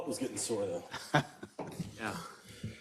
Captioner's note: laugh